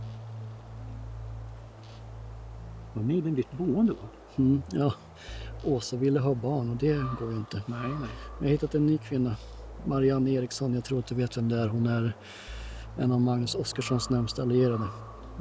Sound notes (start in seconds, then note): 0.1 threatening ambient music; 4.7 A bird caws; 12.0 A bird caws